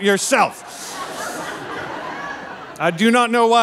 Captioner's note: audience laughing